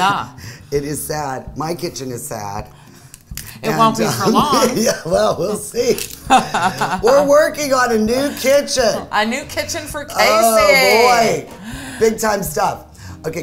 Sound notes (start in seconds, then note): 3.8 laughing